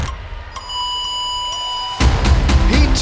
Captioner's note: starting beep sounds